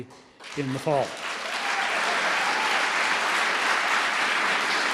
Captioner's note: applause